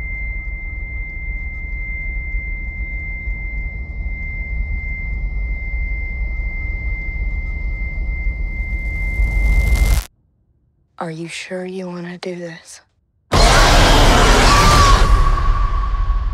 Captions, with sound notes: RAIN Are you sure you wanna do this? [roar] [scream]